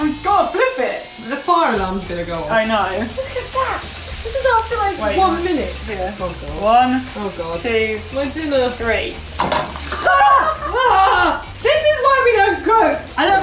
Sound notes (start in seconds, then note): 10.0 both women laugh